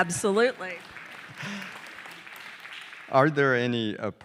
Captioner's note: audience applauding